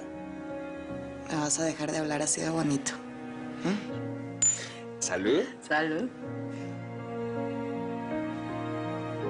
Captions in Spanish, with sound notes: - !QUE NUNCA...! ME VAS A DEJAR DE HABLAR ASI DE BONITO. ¿HUM? [Chocan los vasos] - ¿SALUD? - SALUD.